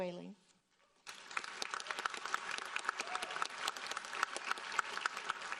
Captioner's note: audience applauding